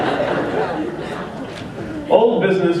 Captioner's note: laughter